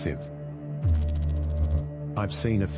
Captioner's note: electrical noise